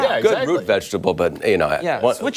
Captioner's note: laughter